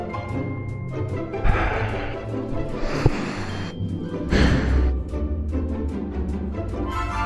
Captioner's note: sighs